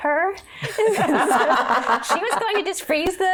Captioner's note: laughing